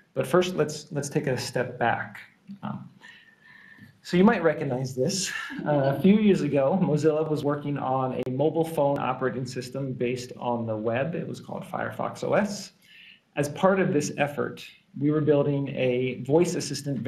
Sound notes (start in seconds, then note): 5.2 laughing